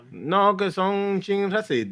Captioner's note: non-english Speech